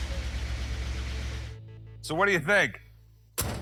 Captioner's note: truck door closes